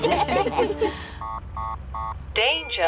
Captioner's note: laughter; beeping